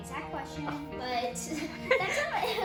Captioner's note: laughing